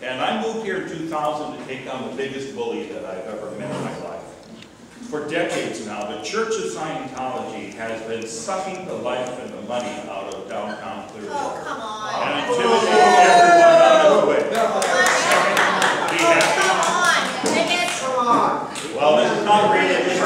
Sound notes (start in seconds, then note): 12.2 cheering